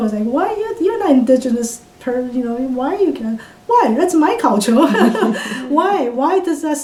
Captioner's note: laughs